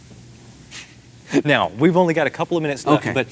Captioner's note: laughs